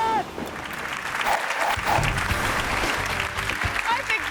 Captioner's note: resident yells; hands clapping; graphic whooshes